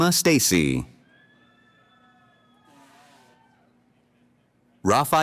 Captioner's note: cheering